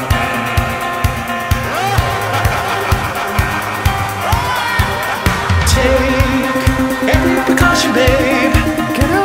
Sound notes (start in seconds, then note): 1.4 laughing